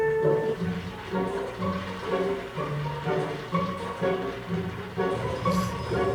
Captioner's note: papers blow in the wind